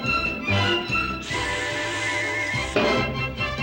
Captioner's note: hisses